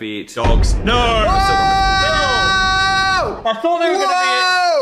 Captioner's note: screams